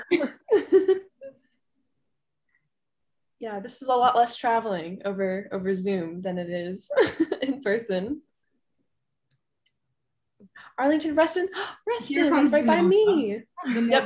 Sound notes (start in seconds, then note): 0.0 group chuckling; 6.7 chuckles